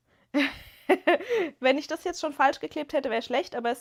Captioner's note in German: gelächter